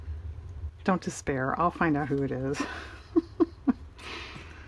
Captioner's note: laughs